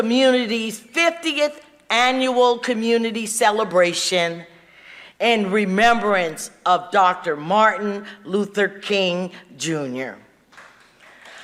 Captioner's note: applause